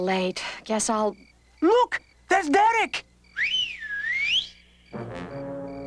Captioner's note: whistles loudly